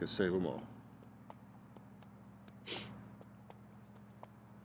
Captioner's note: hooves pattering